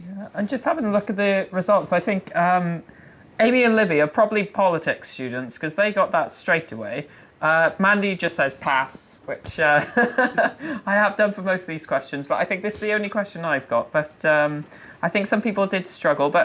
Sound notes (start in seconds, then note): 9.8 laughing